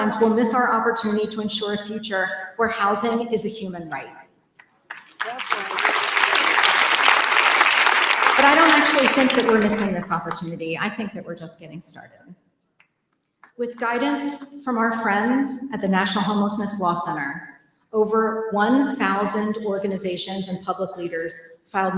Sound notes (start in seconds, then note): 4.8 applause